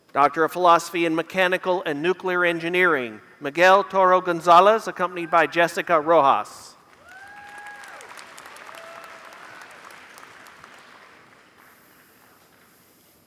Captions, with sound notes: Doctor of Philosophy in Mechanical and nuclear engineering. (Applause)